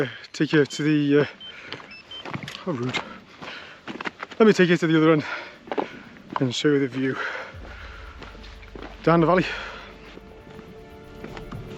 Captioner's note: Zoleo beeps